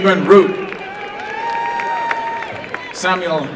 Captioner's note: applause